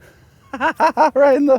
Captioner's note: laughs